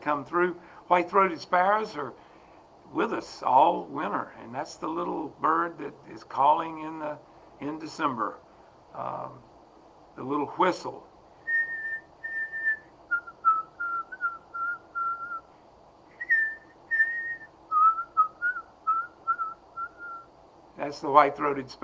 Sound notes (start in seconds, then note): 11.4 whistle